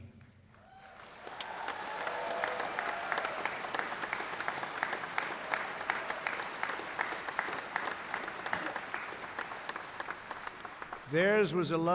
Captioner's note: applause